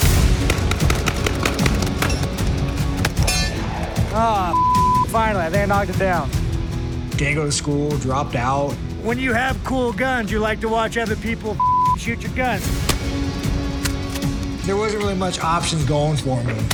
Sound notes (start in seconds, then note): 0.0 AK rapidly firing; 3.0 bullets pinging on target; 12.8 shotgun firing; 13.7 shotgun pumping and clicking